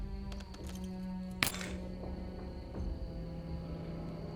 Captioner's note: clanks onto floor